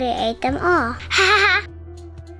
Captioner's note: laugh